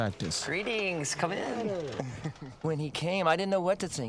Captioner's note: chuckles; 轻笑